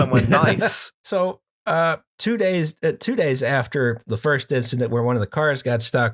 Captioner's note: laughter